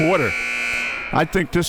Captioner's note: buzzer blares